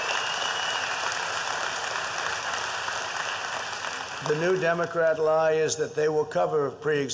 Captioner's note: applause